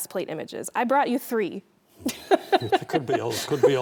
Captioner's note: laughing